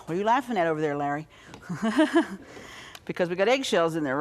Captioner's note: laughs